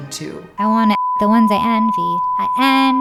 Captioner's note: beep